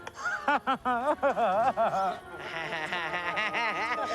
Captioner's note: all three laughing